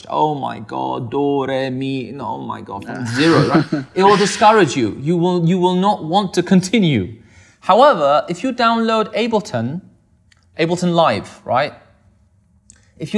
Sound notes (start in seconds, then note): 3.0 laughs